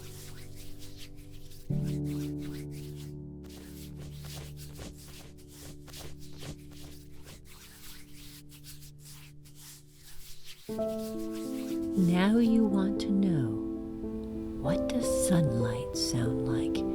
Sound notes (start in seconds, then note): 13.4 soft beating sounds